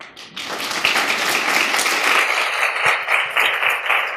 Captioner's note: applause